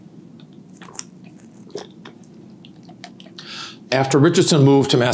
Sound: water gurgling

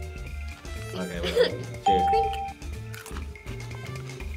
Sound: laughs

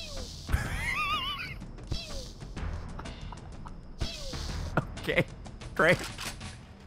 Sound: laughs; pew; pew, pew

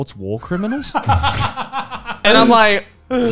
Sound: men laughing

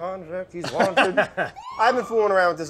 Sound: laughs

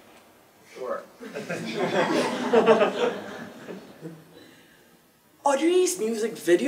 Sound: laugh

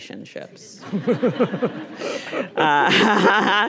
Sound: audience laughing; laughs; laughing

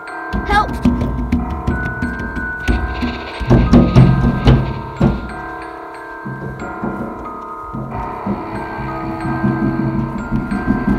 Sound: Nick Banging On Door

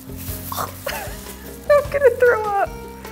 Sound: gags

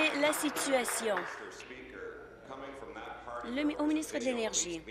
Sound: applause

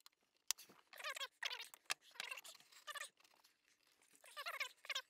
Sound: tape fast-forwarding

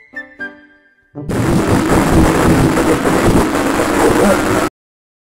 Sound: maniac laughter

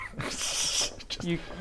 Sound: laughs in demon cruelty

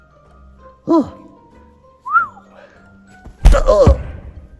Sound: speaker sighs

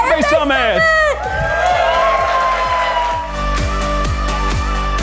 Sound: cheering

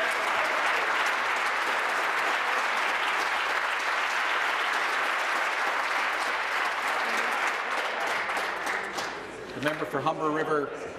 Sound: applause

